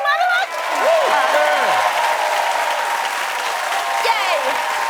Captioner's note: cheering and applause